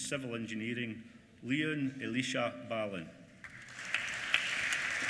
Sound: applause

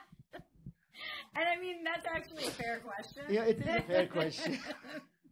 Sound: laughing

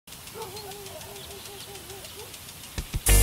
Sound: dog barking in distance, sprinkler whirring

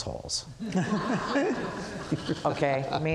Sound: audience laughs

